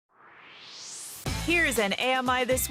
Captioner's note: swoosh